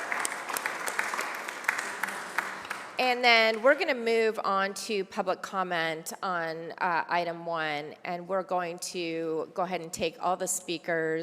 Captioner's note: applause